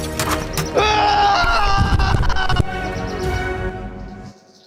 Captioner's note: screaming